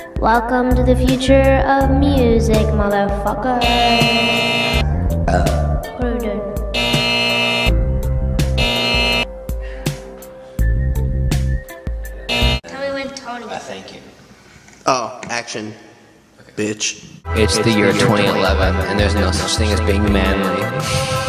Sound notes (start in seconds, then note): 3.6 buzzer; 6.7 buzzer; 12.3 buzzer